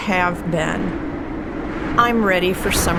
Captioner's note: gusty winds blowing